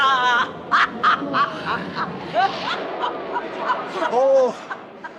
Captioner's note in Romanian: Râsete